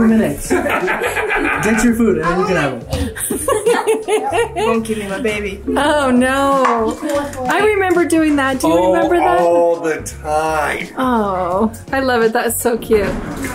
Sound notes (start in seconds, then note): 0.5 laughs